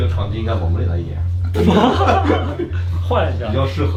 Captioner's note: laughs